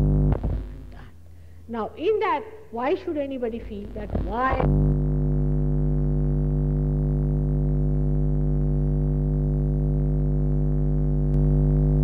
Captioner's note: noise in mp3; noise in mp3